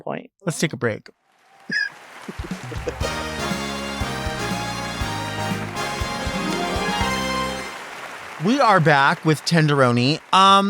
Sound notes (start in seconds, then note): 1.4 audience applauds; 2.4 upbeat music